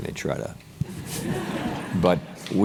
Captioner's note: laugh